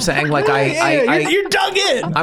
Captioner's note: gang laughing